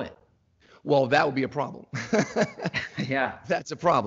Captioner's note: laughs